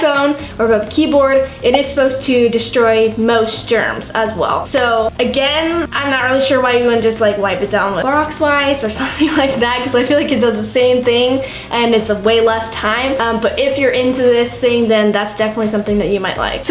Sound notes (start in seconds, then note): 8.9 laughs